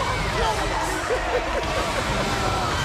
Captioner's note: laugh